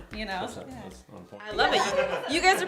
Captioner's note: laughs